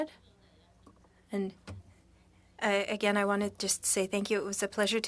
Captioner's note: speaking French